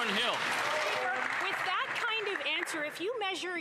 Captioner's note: applause